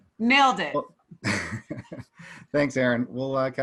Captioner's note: laughs lightly